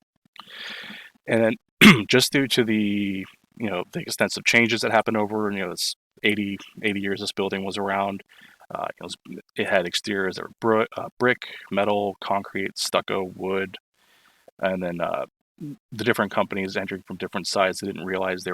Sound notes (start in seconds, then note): 1.8 cough